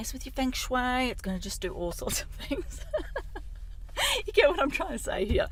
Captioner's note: laughs